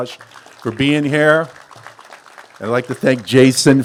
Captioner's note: applause